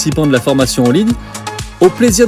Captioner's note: French language